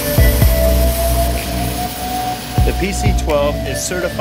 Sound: for sale music; sound of Pilatus PC-12 taxiing

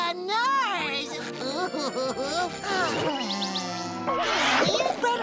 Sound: sighing

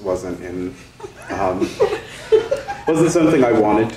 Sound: people giggling

